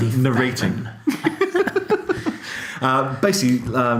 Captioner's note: laughing